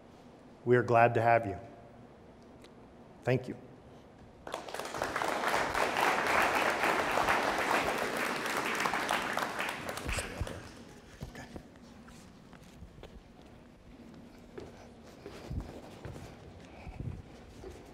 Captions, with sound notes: We are glad to have you. Thank you. (audience applauding)